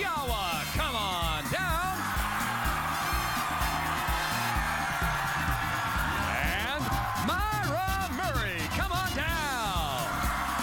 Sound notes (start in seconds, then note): 0.0 cheers and applause